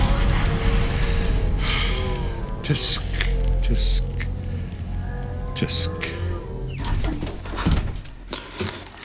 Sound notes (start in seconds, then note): 2.1 sighs